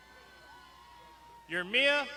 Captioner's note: crowd shouting